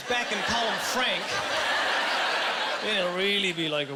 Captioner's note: laughing